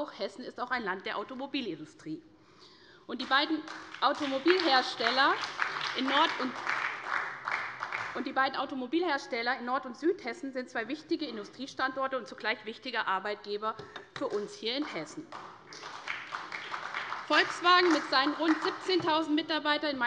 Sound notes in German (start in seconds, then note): 3.6 Beifall bei der SPD; 14.8 Beifall bei der SPD